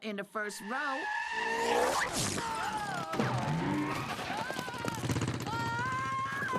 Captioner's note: tires screech